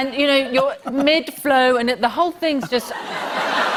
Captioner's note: laughter